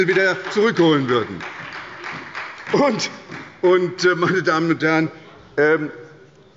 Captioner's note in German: Beifall bei der SPD